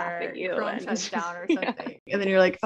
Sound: laughs

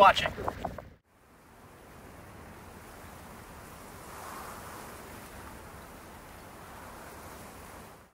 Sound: desert rain and wind noise

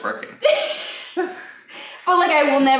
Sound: laughs

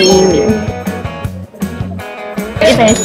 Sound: suck, suck, suck

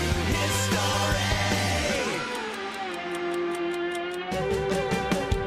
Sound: clock ticking; energetic rock music

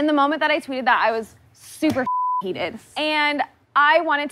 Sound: beep

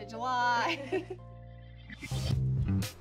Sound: chuckles

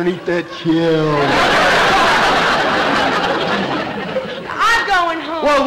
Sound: audience laughter

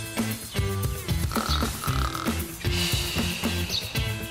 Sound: upbeat music; man snoring

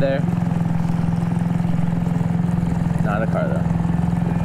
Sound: boat motor hums

